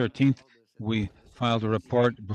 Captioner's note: speaking French